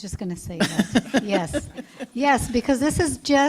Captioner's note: laughter